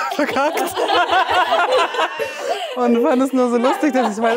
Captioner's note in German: Gelächter